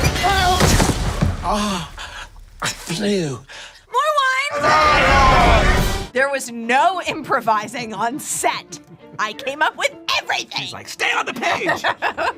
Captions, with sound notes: - Ah, I flew. - More wine! (guests cheering) - There was no improvising on set. I came up with everything! - She's like, stay on the page!